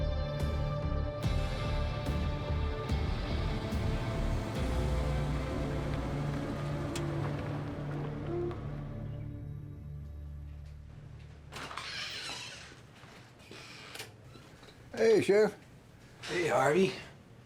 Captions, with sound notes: [DOOR CREAKS OPEN] Hey, sheriff. Hey, Harvey.